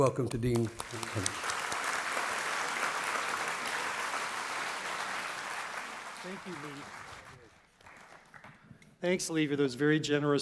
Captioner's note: applause